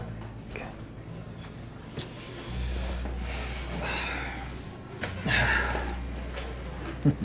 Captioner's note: soft music in background; chatter softly droning